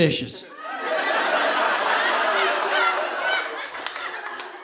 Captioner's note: audience laughs